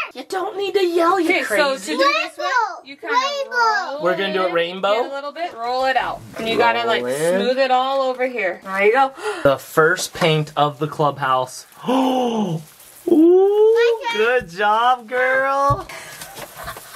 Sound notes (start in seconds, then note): 11.8 gasps; 16.7 chuckle